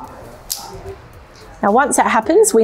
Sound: pole clicking

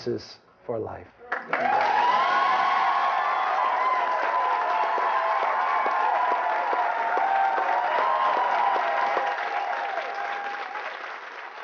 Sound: cheers and applause

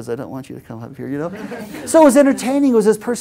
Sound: laugh

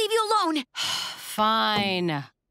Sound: sighing

